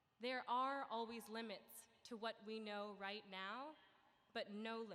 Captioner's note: none